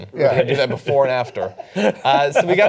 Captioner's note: laughter